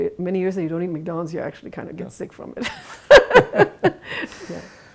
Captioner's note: laughs